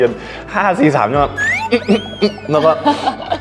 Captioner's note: holding in laughter